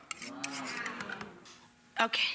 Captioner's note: audience exclaiming